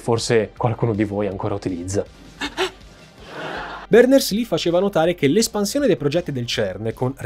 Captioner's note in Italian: Risata sheldon cooper